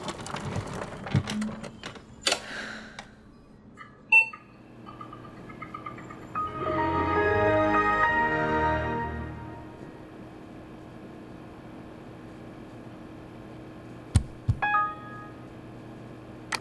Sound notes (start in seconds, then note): 0.0 projector whirs; 5.8 computer starts